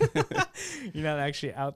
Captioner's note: laughing